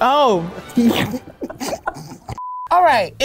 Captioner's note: laughing